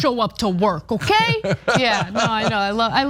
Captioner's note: laugh